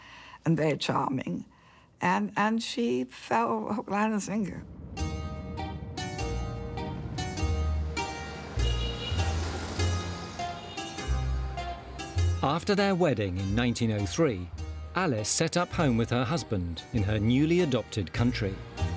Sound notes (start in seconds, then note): 5.0 gentle music; 8.0 engine humming; 8.8 horn honking